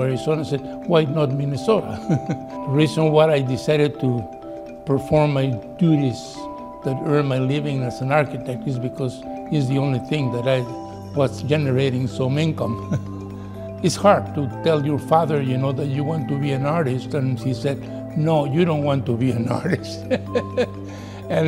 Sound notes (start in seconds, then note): 2.0 laughs; 12.8 chuckles; 20.0 laughs